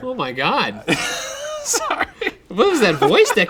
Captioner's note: laughs